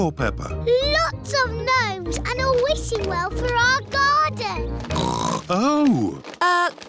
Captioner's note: oinks